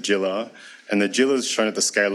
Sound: speaks foreign language

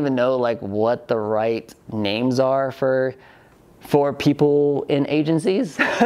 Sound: laughs

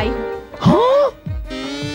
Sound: gasps

